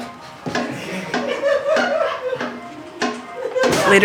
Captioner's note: laughter